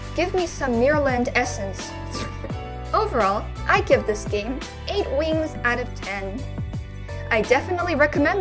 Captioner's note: slurping noises